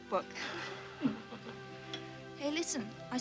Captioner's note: both chuckling